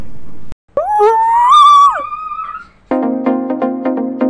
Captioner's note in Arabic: صراخ